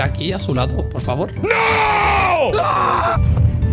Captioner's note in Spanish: grita